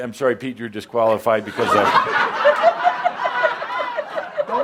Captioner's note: laughter